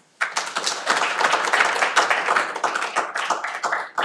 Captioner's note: cheering